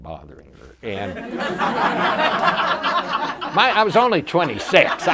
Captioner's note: audience laughter